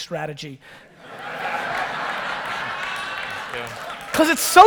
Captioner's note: audience laughter